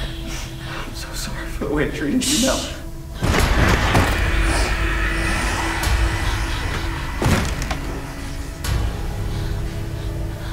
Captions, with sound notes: I'm so sorry for the way I treated you, Mel. (Melanie hushes) (thudding)